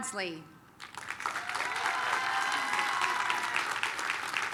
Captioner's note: applause, cheering